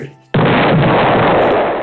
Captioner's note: boom